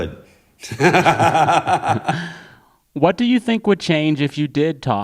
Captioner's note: laughter